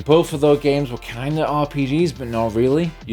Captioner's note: none